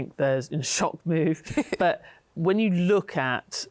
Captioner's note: laughs